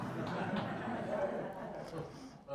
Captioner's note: audience laughing